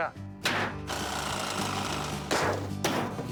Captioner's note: whirring